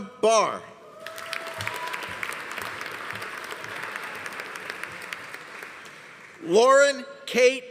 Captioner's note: audience cheering; audience applauding